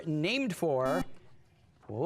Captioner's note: buzzer